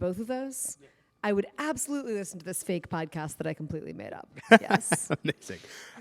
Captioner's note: laughter